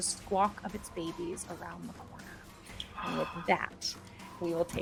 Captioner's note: birds squawk faintly; dramatic music continues